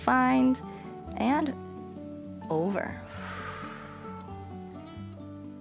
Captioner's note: exhales